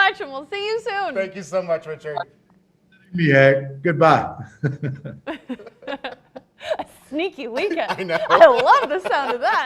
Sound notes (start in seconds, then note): 4.5 all chuckling; 7.3 laughing; 9.4 gentle music